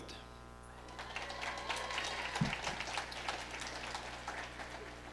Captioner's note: audience applauding